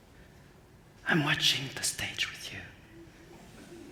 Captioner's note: whispers